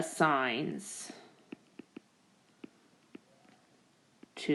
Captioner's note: keyboard Tapping